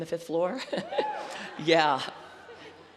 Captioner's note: laughter